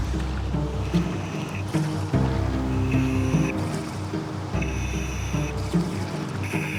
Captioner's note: suspenseful music continues; mouthpiece hissing